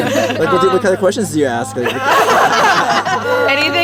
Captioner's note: giggles; girls laugh